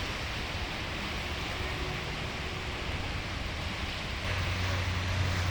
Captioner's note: waves crashing